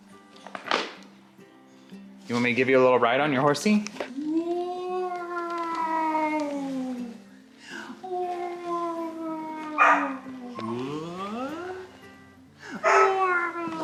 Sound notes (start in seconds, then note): 4.0 makes playing noises; 9.8 dog barks